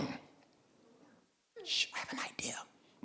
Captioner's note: mother whispers